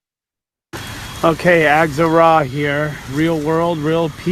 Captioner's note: quiet blower sound